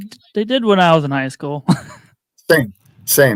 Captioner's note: laughs